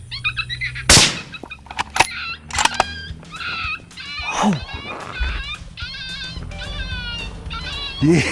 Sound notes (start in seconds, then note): 0.9 gunshot